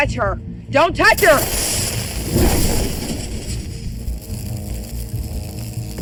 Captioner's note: electricity buzzing